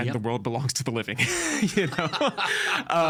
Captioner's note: laughing